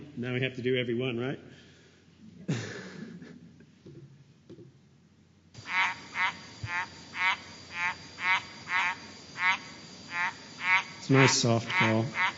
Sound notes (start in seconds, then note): 5.5 sound of frog calling